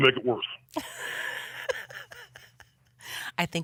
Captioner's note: laughs